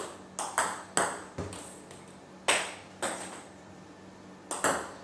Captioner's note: ball ping pong hitting continues